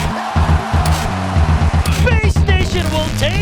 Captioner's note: crowd cheers